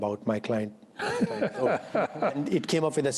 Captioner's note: laughter